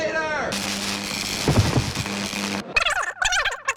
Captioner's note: electric shock; disc scratch